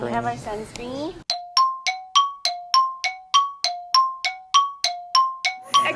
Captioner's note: time passing sound effect